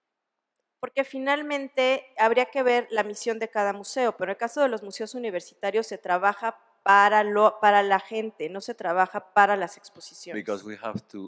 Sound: speaking spanish

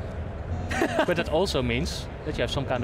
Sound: laughs

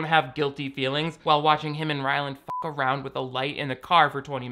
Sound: beep

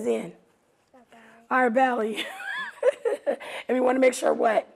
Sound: laughs

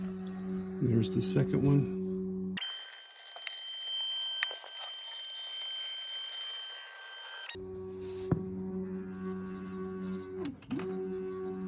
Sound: motor sound

